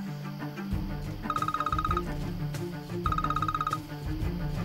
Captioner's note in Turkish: Telefon çalar